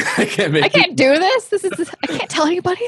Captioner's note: laughs